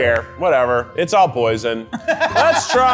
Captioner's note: laughs